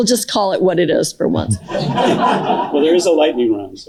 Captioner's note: more laughter